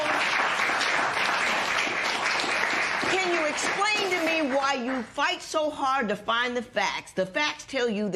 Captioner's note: applause